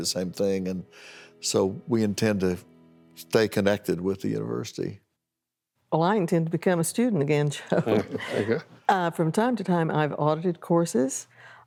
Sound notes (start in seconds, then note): 7.6 laughter